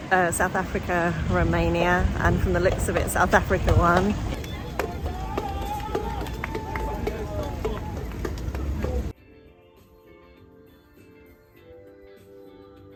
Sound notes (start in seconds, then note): 4.3 cheering